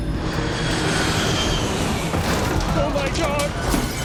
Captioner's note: plane engine roars